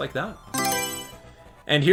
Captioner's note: Mario Selection Sound